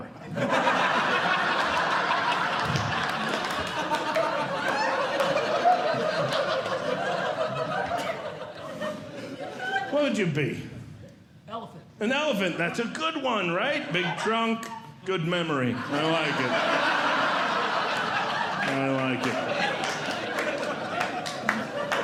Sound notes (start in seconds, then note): 0.1 audience Laughing; 15.5 audience Laughing